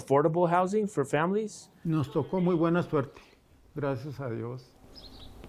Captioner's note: speaking in foreign language